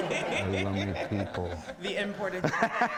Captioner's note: audience laughing